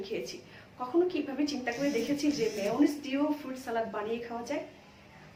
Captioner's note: bzz bzz